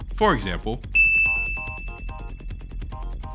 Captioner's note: ding